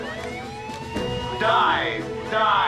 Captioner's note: alarm sounds